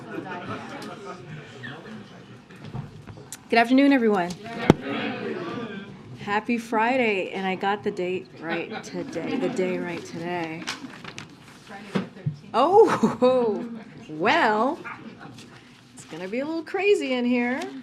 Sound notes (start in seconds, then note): 8.5 laughter; 12.7 laughter